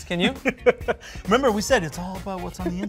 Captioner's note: laughing